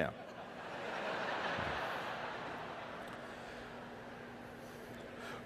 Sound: audience laughter

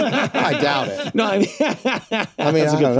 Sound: all laugh; laughs

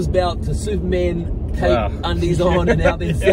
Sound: laughs

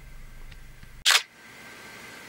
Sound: camera shutter

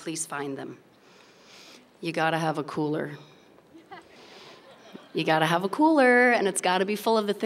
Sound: laughter

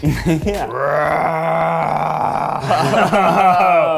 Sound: roars

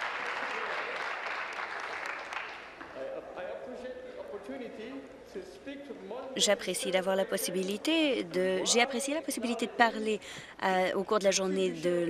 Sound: applause

